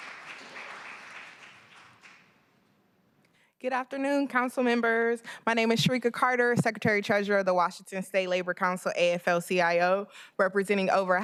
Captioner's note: applause